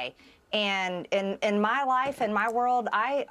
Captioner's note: none